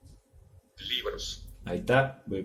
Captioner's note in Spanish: voz del dispositivo